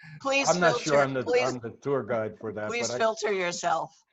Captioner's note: laughing